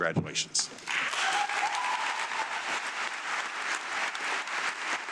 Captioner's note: audience clapping